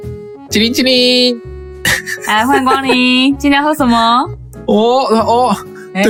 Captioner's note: laugh